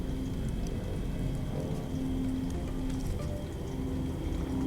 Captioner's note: eerie horror sounds